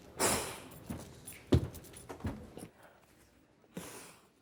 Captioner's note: sniffing